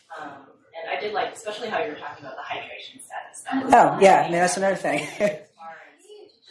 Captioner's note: laughs